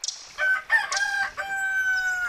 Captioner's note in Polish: pianie koguta